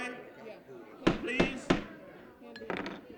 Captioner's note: talking over gavel banging on table